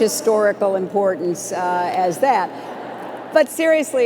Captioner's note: laughter